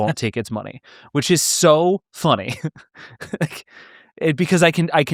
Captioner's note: laughing